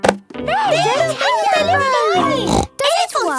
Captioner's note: snorts